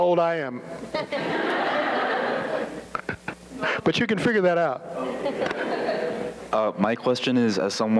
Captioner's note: laughter; laughter